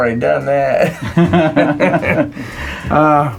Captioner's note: laughing; laughs